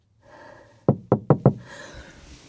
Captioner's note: knocks on the window